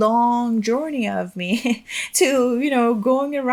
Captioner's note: chuckles